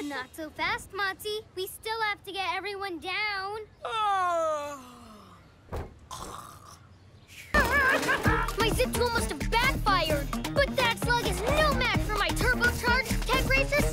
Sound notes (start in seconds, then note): 3.8 fake yawning; 7.5 chuckling